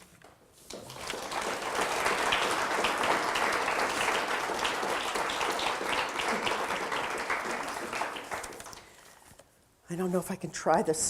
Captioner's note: audience applause